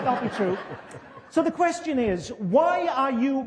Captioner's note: laughter